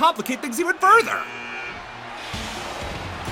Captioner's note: buzzer buzzes